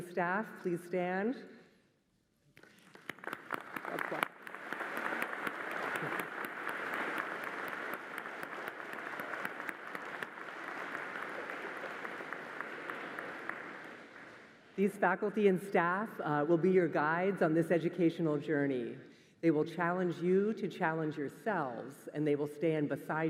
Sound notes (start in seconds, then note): 6.8 applause